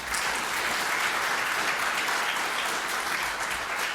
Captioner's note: applause